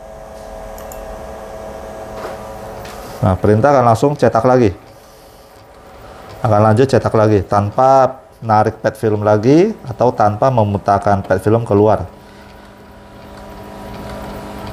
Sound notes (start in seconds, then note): 0.7 clicking sound; 2.7 printer machine noise